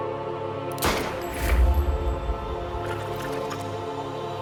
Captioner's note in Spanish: Disparo